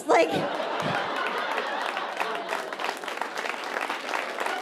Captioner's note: audience applauding